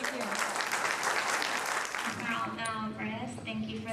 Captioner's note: applause drowns out speaker